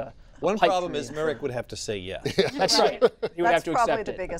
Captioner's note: laughter